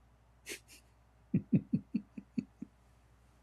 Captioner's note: Ketawa